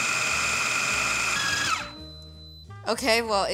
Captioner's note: processor whirs; processor squeals then stops